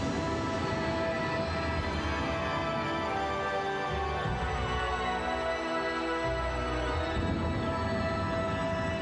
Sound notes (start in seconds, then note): 2.3 crowd cheering continues; 2.3 somber music continues